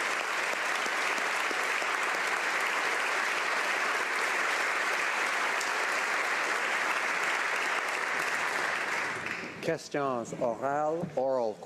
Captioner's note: applause